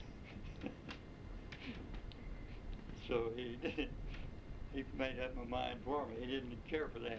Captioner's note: chuckles